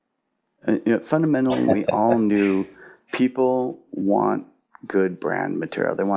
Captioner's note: laughs